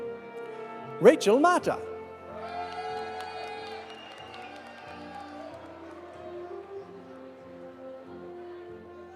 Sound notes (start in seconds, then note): 2.3 audience cheering; 2.3 audience applauding